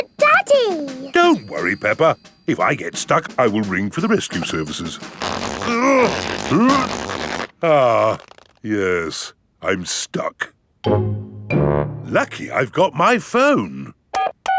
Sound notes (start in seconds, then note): 5.6 grunting; 14.3 dialing